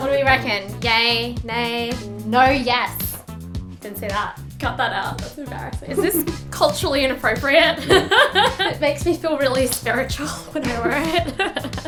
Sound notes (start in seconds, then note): 7.7 laughing